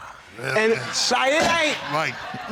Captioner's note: audience laughing